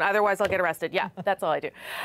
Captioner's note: laughter